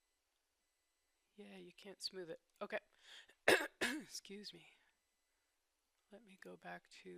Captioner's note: cough